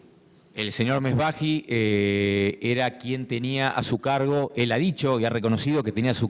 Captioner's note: speaking in foreign language